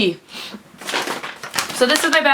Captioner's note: sound of paper bag rustling